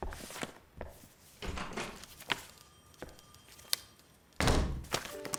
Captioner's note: door opening, closing